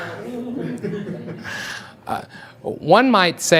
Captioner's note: audience laughs